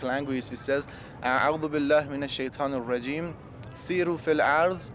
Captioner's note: speaking Arabic